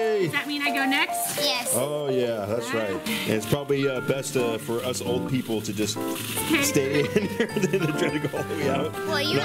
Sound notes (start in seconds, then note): 6.5 laughs